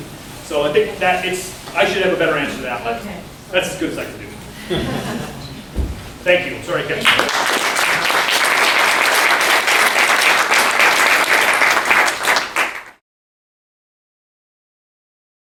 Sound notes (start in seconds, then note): 7.0 applause